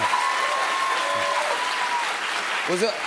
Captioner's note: cheers and applause